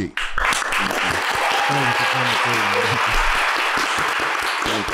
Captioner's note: everyone applauding